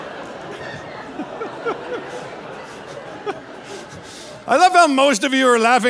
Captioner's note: audience laughing; laughing